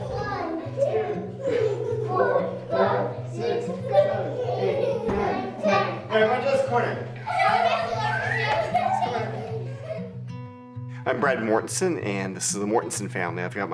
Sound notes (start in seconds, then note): 0.0 children giggling; 7.6 children laughing